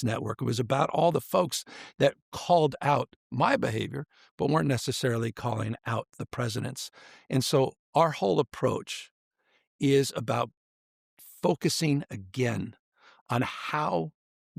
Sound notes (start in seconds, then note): none